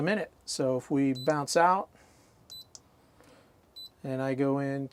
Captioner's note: beeping sound